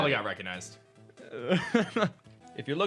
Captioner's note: laughs